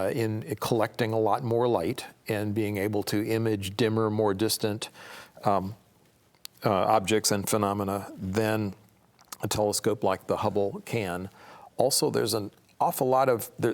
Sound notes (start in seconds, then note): none